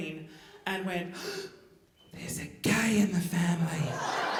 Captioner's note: gasps